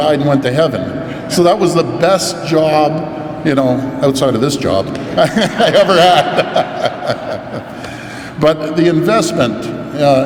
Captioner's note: laughs